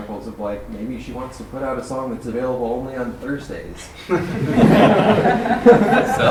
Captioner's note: laughter